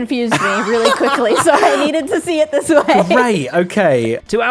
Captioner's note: laughs